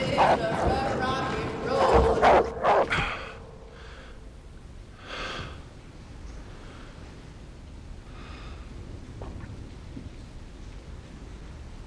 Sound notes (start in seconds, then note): 2.6 breathes heavily